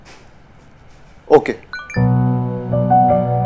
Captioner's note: Message tone